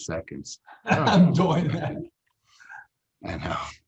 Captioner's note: laughs